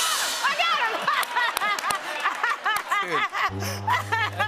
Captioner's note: laughs